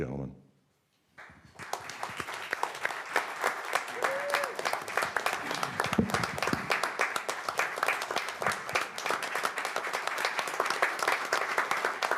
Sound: applause

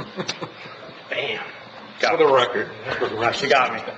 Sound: member laughing

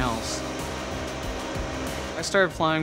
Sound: motor hums

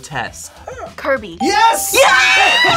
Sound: buzzer barks; bell rings

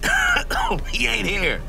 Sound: agent coughing

